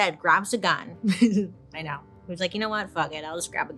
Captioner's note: chuckles